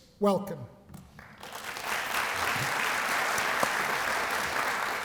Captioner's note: applause